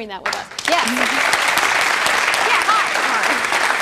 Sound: applause

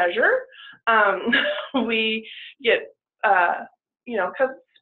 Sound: chuckles

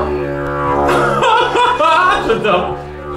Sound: laughes

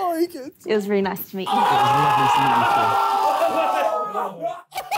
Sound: screaming

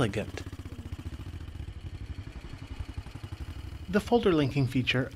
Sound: motorcycle roaring

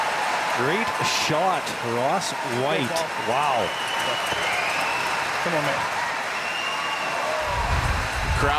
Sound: cheering and Applause

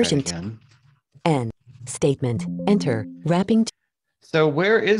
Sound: automated Voice

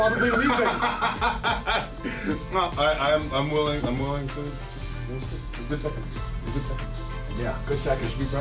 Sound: laugh

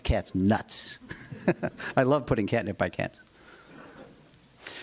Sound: laughter

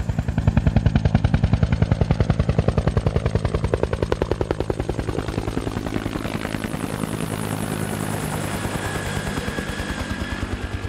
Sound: helicopter rotor sounds

